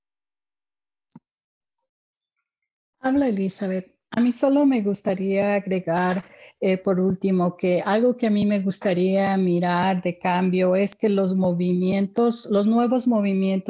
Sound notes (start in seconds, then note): 2.3 speaking in spanish